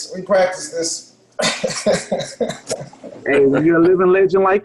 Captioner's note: laughs